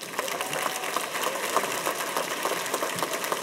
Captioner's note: applause